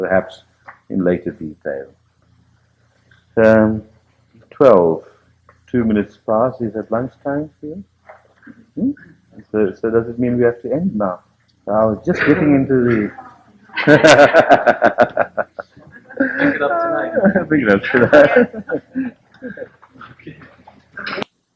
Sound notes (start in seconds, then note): 13.7 laughter; 18.7 laughing